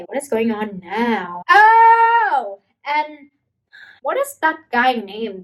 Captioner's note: heavy sighing